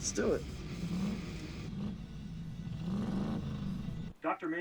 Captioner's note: loud engine acceleration